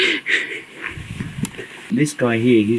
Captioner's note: chuckle